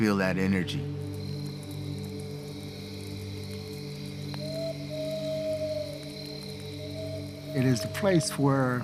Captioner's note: crickets chirping